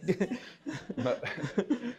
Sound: laughter

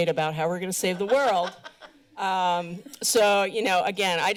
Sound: laughter

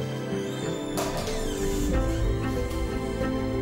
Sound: door squeaking

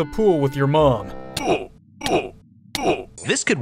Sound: zombie grunting

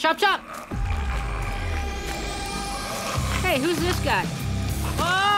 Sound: growling

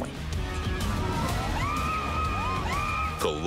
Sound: people screaming

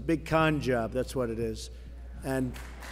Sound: applause

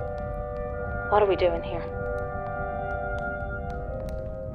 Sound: from tv

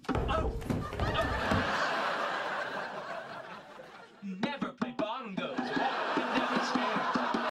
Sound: thud

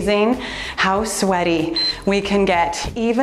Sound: timer beeps

